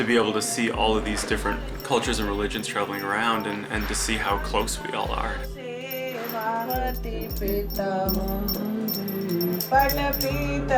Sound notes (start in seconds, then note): 5.9 bells jingling; 5.9 chanting